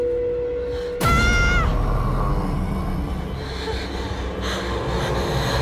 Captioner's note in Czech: dívka křičí a kalhoty